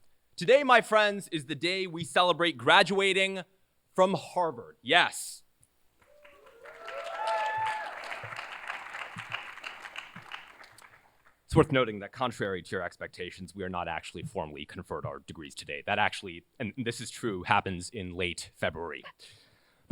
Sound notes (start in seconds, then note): 6.0 cheers, applause